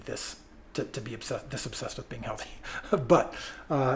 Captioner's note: laughs